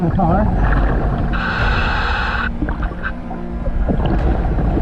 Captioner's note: oxygen mask hissing